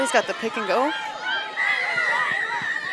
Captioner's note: whistle blows; onfield chatter